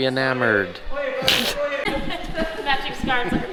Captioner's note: laughs